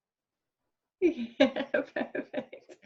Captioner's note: laughing